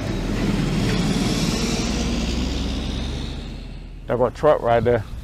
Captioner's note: bright music; truck revving